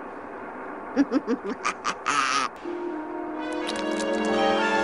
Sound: laughing

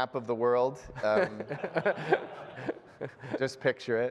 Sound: laughter

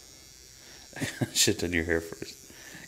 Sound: laughing

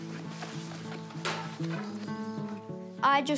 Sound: clank!

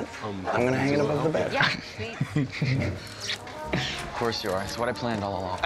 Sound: chuckles

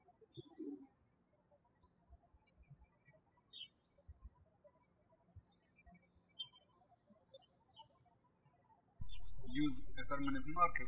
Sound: birds chirping

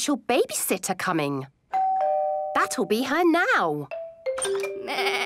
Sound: doorbell rings

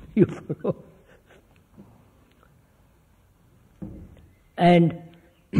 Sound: laughs

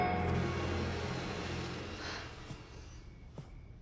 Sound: doorbell ringing

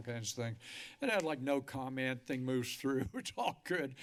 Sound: laughter

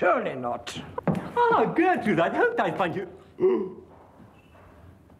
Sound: gasping

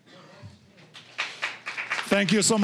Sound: applause

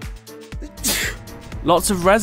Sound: sneeze

